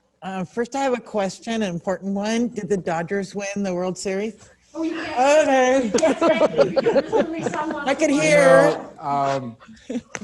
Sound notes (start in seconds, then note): 5.8 everyone laughing; 9.2 chuckles